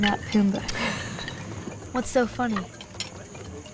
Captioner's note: Chuckles